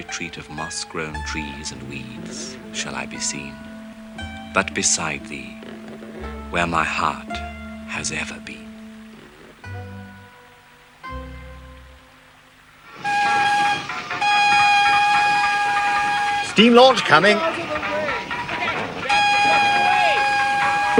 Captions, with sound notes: "Of moss-grown trees and weeds, shall I be seen "But beside thee, where my heart has ever been. " (HORN BLOWING) Steam launch coming. - Get out of the way. - Get out of the way!